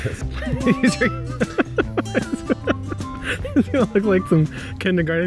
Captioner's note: laughing